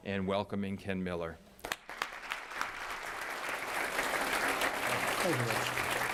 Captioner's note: applause